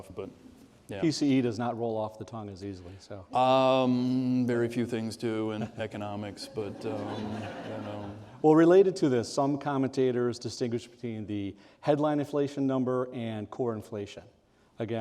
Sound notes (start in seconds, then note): 7.4 audience laughing